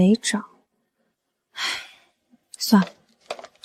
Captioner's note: sigh